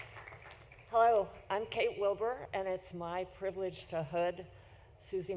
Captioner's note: applause